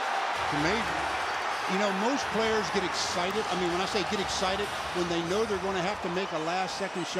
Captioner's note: crowd noise